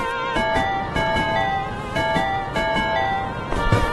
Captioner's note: wind howling